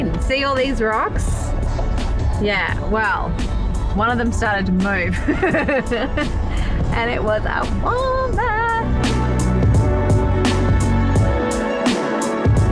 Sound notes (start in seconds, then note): 5.2 laughs; 9.4 mellow music